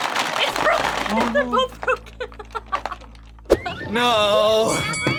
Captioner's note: laughs; bell rings